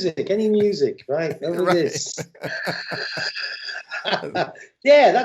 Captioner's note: laughter